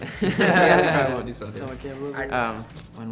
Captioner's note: band members laughing